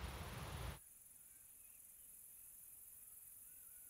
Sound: crickets chirping

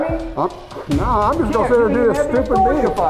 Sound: voiceover

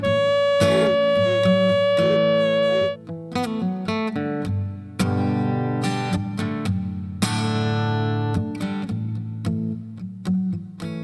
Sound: horn blowing

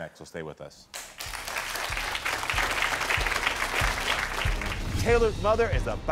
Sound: audience applauding

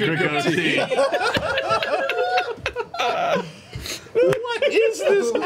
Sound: all laugh

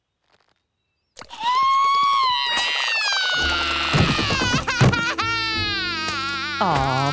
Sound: crying

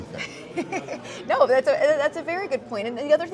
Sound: laughs

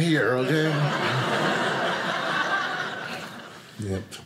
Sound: audience laughing

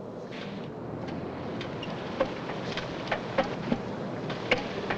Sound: machinery rumbling nearby

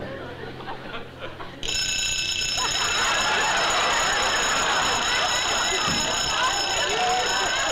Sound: bell ringing loudly

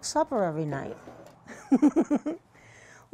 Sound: laughter

